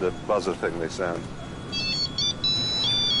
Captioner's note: phone rings